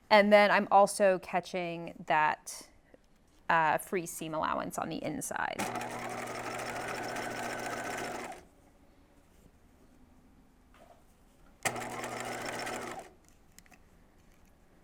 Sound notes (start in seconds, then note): 5.5 sewing machine whirring